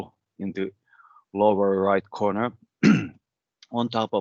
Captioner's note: clears throat